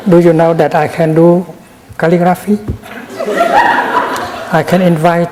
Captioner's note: laughter in the audience